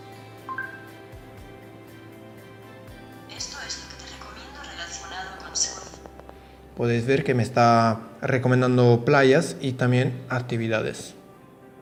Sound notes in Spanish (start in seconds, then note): 0.5 blip